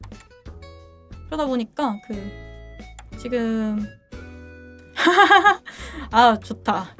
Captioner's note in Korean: 웃음